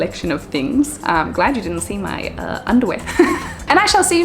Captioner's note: chuckles